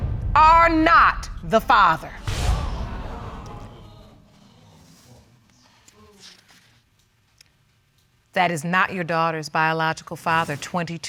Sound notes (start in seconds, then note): 2.2 audience exclaims